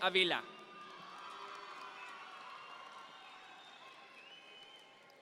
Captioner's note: audience members cheer